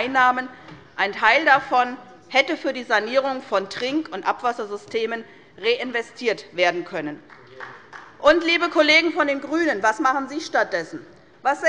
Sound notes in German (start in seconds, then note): 7.2 Beifall bei Abgeordneten der SPD